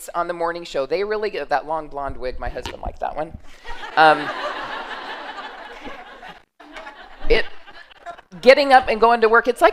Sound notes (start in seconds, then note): 3.6 laughter